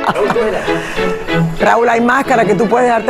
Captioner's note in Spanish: Ríe